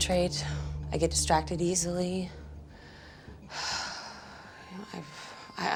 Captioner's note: sighs